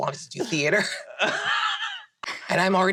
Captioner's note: laughs